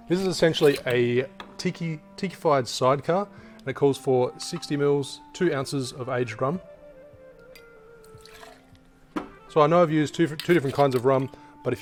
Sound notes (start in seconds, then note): 7.5 liquid sloshing